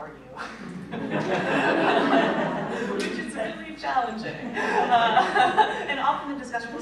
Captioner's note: laughter